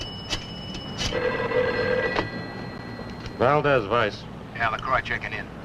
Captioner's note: phone Rings